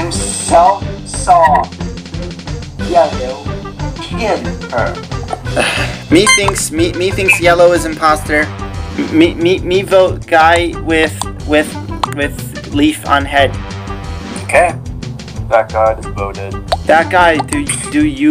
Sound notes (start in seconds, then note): 5.5 sigh